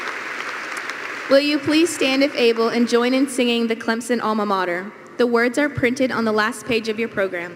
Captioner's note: applause